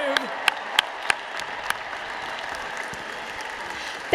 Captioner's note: applause